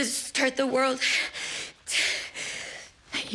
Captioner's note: breathing heavily